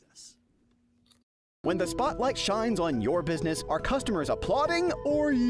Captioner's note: voiceover